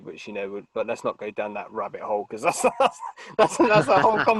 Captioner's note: laughing